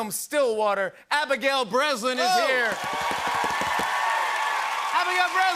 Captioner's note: cheers and applause